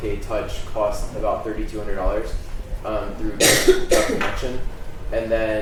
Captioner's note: coughing